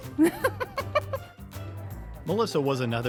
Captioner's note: chuckling